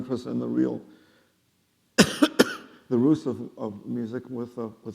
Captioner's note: coughing